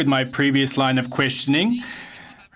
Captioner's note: speaking French